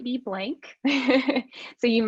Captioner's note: laughs